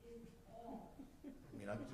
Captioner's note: chuckles